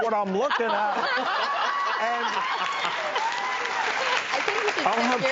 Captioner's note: everybody laughs and applauds